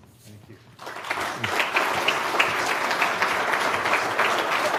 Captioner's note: applause